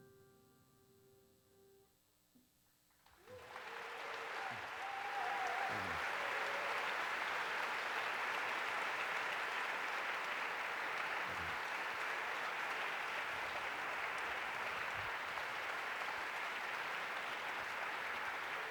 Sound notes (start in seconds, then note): 3.5 applause